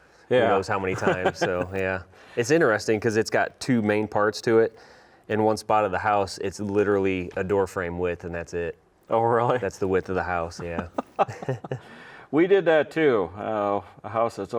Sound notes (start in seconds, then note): 10.6 both chuckling